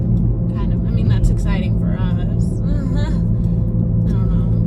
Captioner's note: laughs